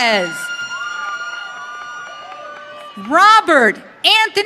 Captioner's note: audience cheering